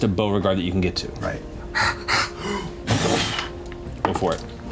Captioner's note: pants; ape pounding